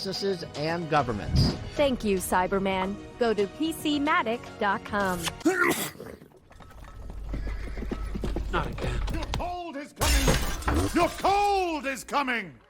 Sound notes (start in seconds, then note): 5.2 sneeze; 8.0 hooves approaching